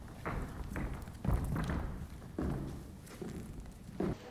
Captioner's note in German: Schritte auf Tanzboden